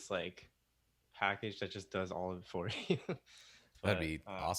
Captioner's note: chuckles